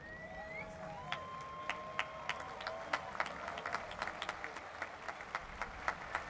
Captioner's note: applause